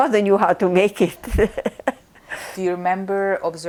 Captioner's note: laughing